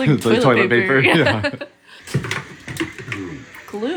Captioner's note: laughing